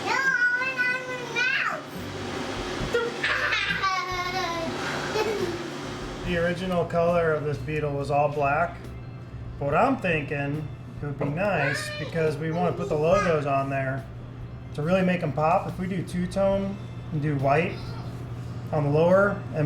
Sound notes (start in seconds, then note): 3.0 girl giggling